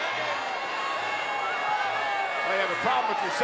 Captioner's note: crowd cheers